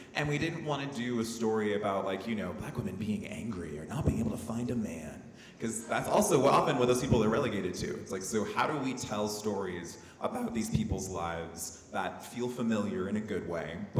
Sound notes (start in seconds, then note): none